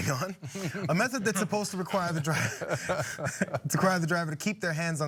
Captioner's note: laugh